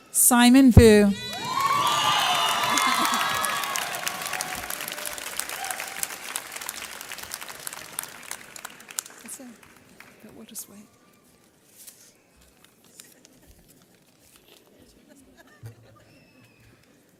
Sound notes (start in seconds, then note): 2.3 audience cheers